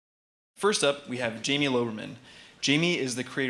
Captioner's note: voiceover